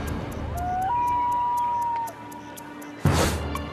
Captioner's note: animal hoots